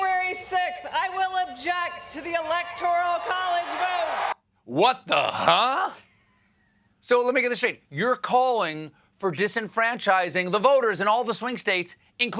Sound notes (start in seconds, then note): 4.7 cheers and applause